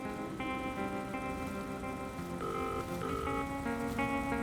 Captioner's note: film reel clicking; dial tone buzzing